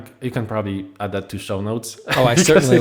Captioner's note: laugh